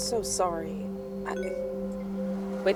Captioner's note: notification sound